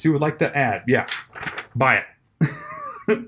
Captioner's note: laughs